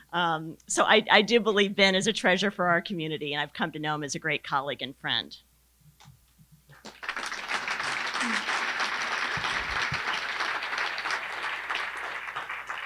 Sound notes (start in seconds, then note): 6.7 applause